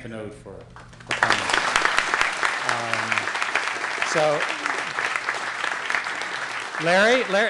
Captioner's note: applause